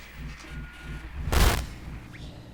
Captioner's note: static